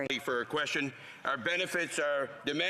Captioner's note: speaking French